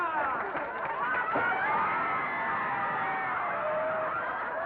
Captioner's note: laughter & commotion; bang; laughter & commotion